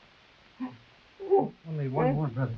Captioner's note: Manuel crying